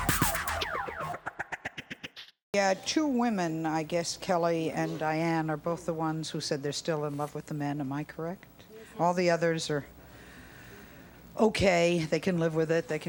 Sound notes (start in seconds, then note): none